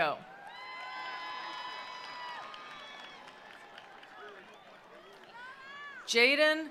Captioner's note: attendees cheering; attendees applauding